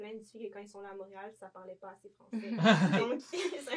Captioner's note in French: rires